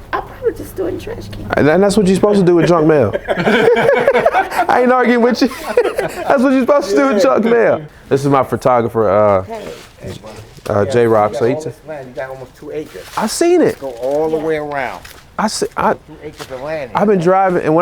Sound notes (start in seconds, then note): 2.1 laughing